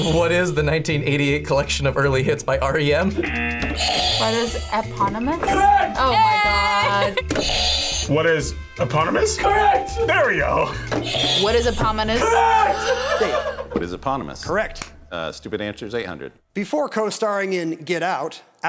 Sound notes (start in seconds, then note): 0.0 buzzer rings; 3.2 buzzer rings; 3.2 buzzer; 5.5 laughs; 7.4 buzzer rings; 11.0 buzzer rings